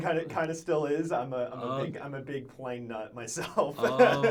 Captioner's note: laughs